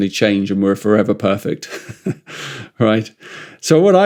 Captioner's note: laughs